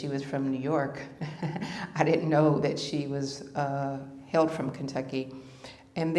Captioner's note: laughter